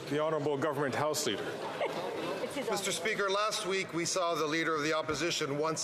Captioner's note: some Applause